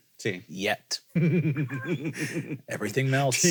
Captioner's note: chuckle